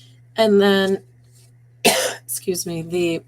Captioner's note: coughing